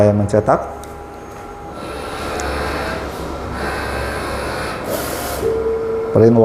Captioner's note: printer machine noise